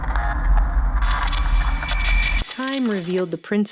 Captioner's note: electric static